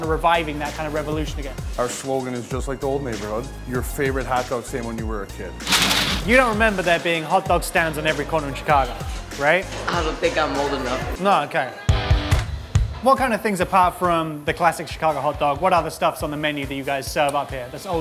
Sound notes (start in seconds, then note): 5.6 bag opens; 11.9 upbeat rock music